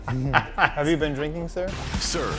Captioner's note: laughs